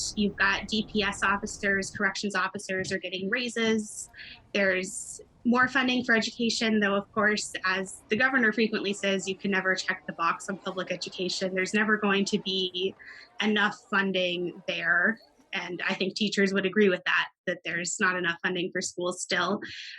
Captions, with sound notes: You've got DPS officers, corrections officers are getting raises. There's more funding for education. Though, of course, as the governor frequently says, you can never check the box on public education. (children chattering) There's never going to be enough funding there. And I think teachers would agree with that, that there's not enough funding for schools, still.